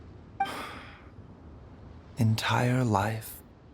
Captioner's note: sigh